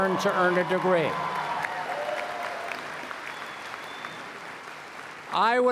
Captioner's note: applause